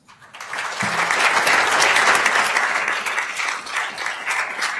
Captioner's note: attendees applauding